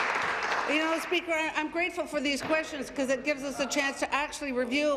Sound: applause

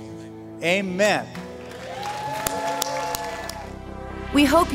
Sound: applause

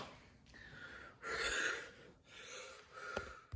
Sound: woman breathes heavily

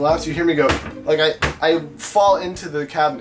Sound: smacks into cabinet

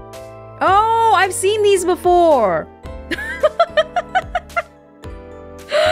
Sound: chuckles

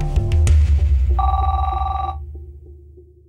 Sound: phone rings

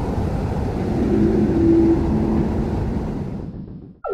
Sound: otherworldly sound

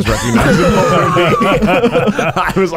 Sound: laughing

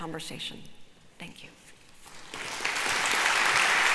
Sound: applause

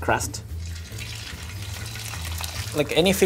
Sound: salmon sizzling

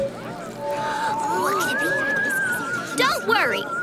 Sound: chattering

